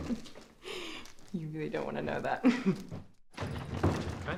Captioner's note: chuckles